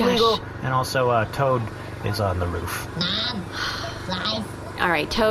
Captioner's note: Jan sighs